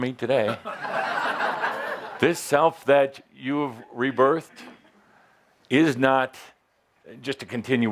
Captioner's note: laughter as Adamus peers into the audience